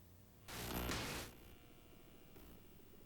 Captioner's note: door slams